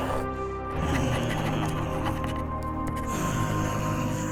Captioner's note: pen scratching